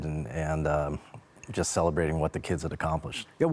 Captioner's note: none